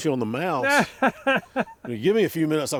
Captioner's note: chuckling